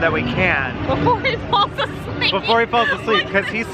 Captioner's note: laughs